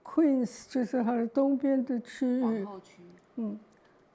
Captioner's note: Mandarin